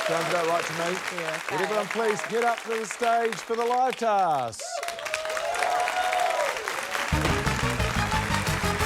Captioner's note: cheering, applause; cheering, applause